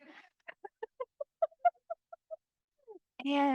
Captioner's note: crowd laughing